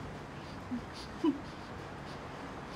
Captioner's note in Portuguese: valentina respirando tensa